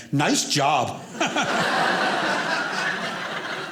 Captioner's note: audience laughing